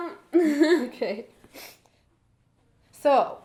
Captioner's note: laughs